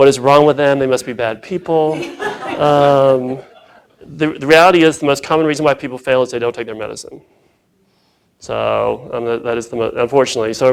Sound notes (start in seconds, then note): 1.9 laughing